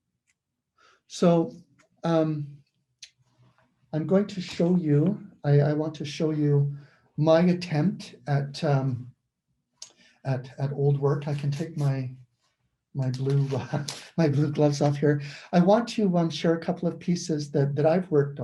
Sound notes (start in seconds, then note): 13.1 laughs